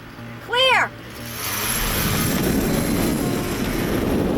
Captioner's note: scooter revs; wind blowing